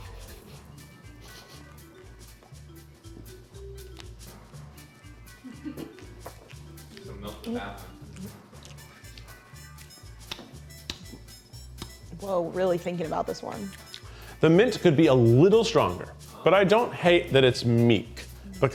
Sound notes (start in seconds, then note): 1.1 sniffing; 2.5 playful music; 8.0 chewing loudly